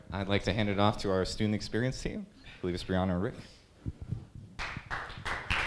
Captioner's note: applause